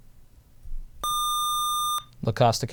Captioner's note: buzzer